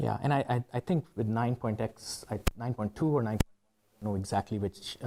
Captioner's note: microphone hitch